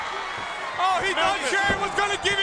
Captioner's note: crowd cheering